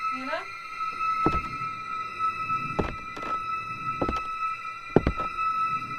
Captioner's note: muffled rhythmic thumps